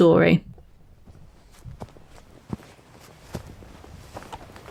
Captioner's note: sound of hiker on path